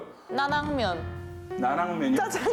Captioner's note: confident